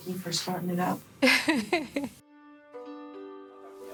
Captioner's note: laughing; tranquil music